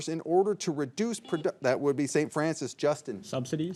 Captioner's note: signal beeps